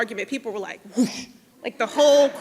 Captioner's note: whooshes